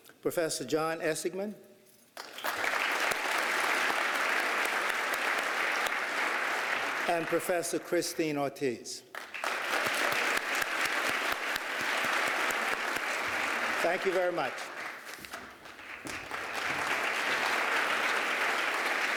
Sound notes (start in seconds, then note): 9.1 applause; 15.5 applause